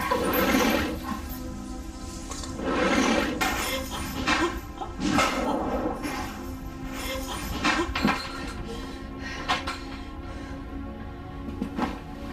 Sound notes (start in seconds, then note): 2.0 object dragging sound; 4.7 clattering sound; 8.6 breathing heavily